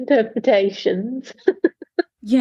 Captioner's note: laughs